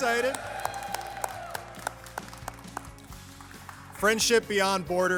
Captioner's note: applause